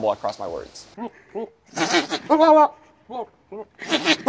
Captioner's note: animal gunts